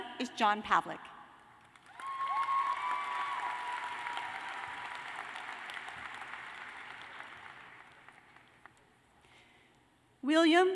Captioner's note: cheers and applause